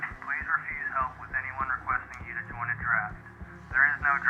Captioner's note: radio broadcast